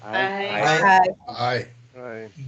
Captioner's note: all chime in